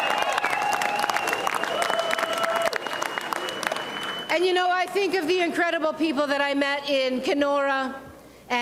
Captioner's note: applause and cheering